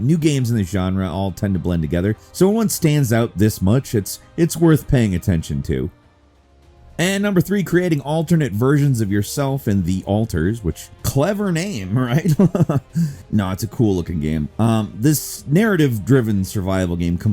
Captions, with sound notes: new games in this genre all tend to blend together. So, one stands out this much? It's worth paying attention to. And number 3, creating alternate versions of yourself in "The Alters", which clever name, right? (laughs) No, it's a cool looking game. This narrative-driven survival game